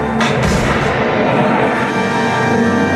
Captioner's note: shooting sounds